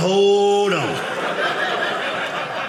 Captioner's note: audience laughing